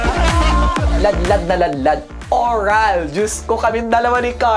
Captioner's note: laughter; bong